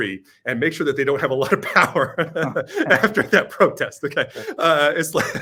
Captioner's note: laughs